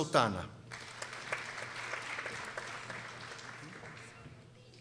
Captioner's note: people applauding